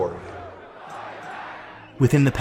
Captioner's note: crowd chanting